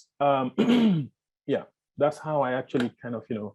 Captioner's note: clears throat